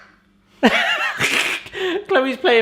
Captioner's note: laughing